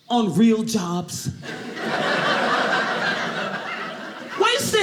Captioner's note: audience laughing